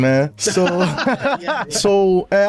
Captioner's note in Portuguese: risadas